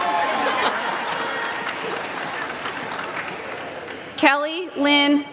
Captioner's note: applause